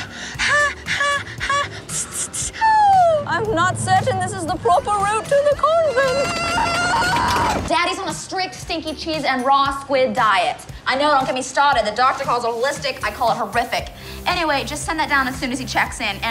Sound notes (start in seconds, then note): 0.0 panting; 5.8 screaming